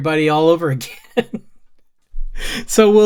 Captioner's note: laughs